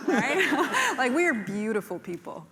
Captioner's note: laughter